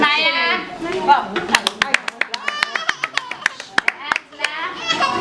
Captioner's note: clapping